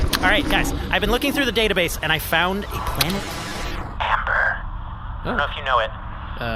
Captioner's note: whispers, with significance